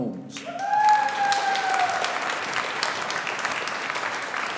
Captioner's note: audience applauding